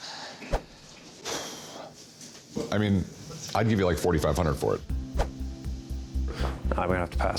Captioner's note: sighs